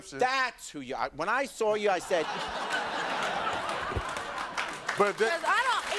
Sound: audience laughing

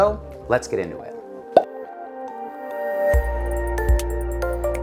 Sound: makes pop sound

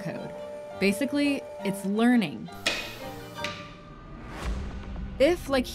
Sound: plate clacking

